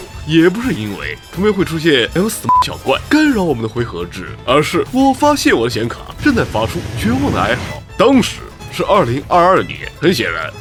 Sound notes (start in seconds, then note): 5.8 desperate death rattle